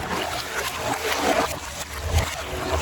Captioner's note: water Splashing